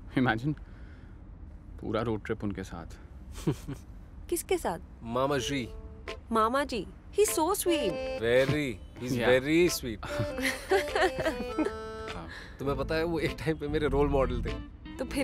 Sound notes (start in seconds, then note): 3.4 laughs; 10.0 all laughing